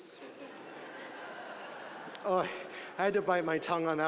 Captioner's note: audience laughing